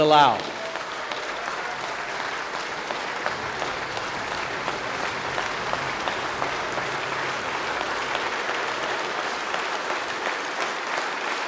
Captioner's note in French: Applaudissements